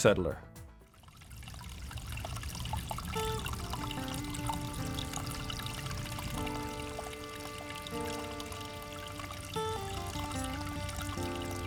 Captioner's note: water Running and Music